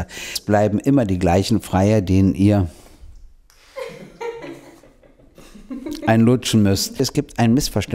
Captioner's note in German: Lachen